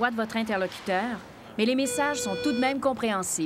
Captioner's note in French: signal sonore